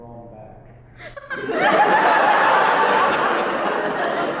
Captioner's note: audience laughs